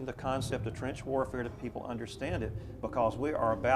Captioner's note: none